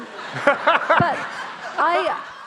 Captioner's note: audience laughing